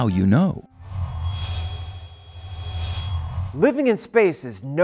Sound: sound Effects

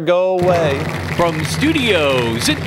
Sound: applause

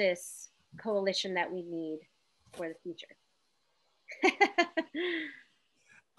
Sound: laughs

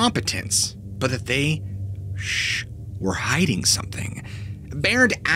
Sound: shhh

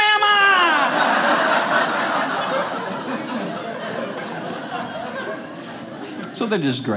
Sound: audience laughing

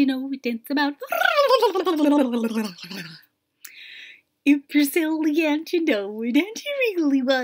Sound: high silly noises

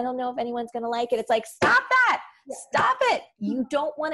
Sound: bangs on desk

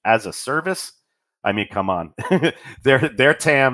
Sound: laughs

